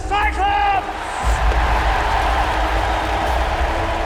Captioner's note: crowd cheering